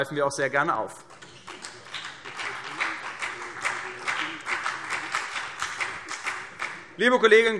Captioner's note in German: Vereinzelter Beifall CDU